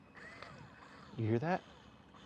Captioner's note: TFX 3 Hopper whirring